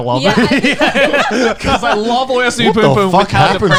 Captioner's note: laughing